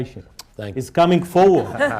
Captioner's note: laughter